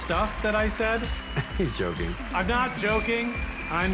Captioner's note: chuckles